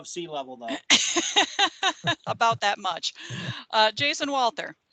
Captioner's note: laughing